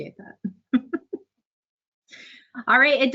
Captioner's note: laughs